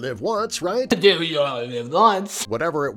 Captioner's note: Jarvis speaks gibberish